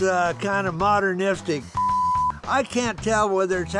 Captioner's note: beep